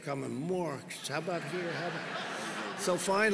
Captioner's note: laughter